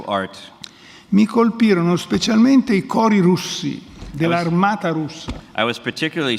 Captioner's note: speaks in Italian